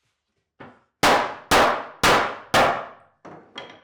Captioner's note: hammer banging